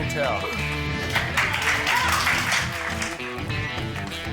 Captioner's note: cheering, applause